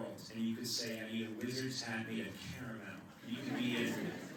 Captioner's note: laughter